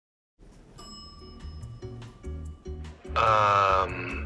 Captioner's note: gentle upbeat music; bell dings